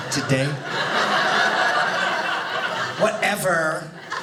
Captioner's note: audience laughing